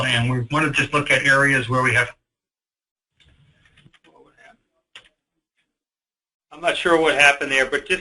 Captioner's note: audio disruption